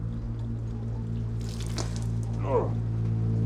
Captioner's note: Bigelow spits; liquid sloshing